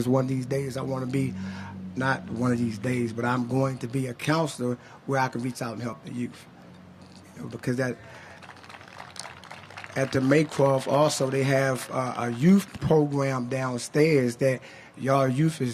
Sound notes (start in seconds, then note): 8.1 applause